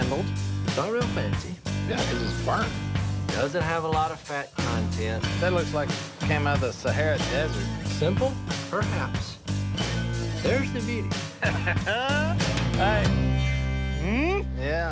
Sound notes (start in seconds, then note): 11.2 chuckling